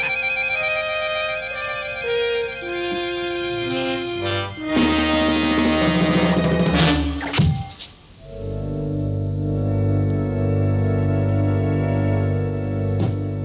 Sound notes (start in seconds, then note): 0.1 Homer chuckling; 7.5 ax thudding; 7.5 ax whooshing; 8.2 tense music